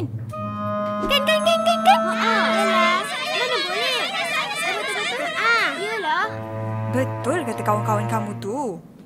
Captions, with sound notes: Am I right? Am I right? (Crowd)Yeah, you can’t! You're right! Your friends are right